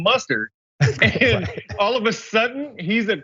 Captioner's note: laugh